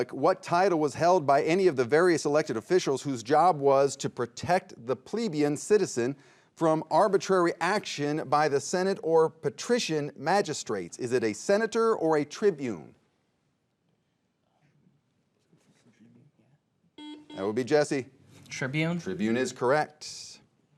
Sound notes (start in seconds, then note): 14.9 players whispering; 17.0 buzzer beeping